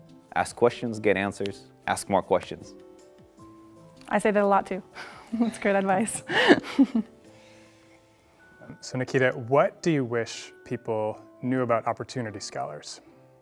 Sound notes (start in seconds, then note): 6.2 laughs